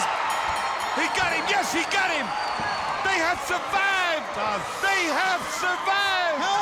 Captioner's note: bell ringing